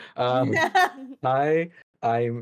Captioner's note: laughs